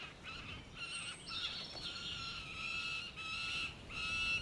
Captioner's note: falcons crying